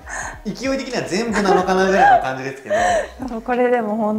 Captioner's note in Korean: 웃음